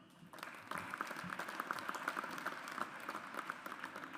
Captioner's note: audience applauds